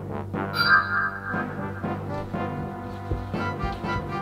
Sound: magic sounds

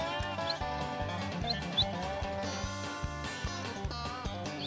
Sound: whistling

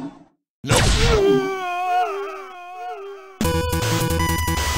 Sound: echo

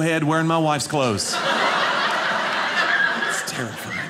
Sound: audience laughing

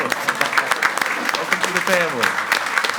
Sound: group applauding

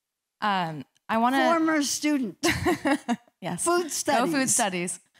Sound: laughter

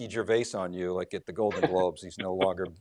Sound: laughs loudly

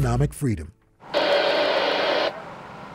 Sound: radio static

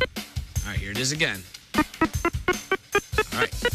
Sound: beeping

